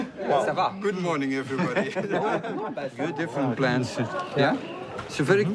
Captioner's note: laughs